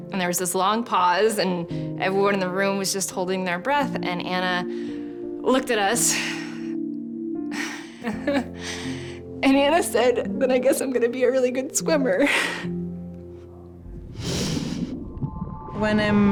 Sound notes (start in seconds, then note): 7.5 sighs; 7.6 laughing; 14.2 sniffs